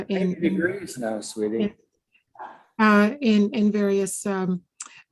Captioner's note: man speaking in the background